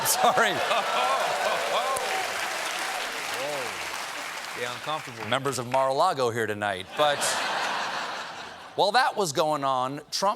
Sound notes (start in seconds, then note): 3.1 applause; 6.9 laughter